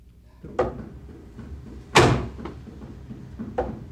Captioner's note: hand slam